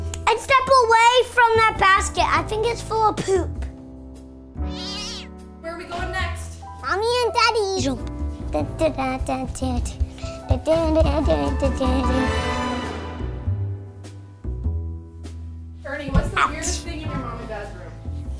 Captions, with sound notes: I'd step away from that basket, I think it's full of poop. (cat meows) - Mommy and Daddy's room! Da-dun-da-dun-dun-da-dun (jazz music)